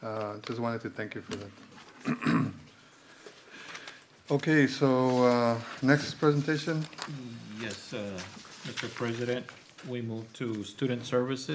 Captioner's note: clears throat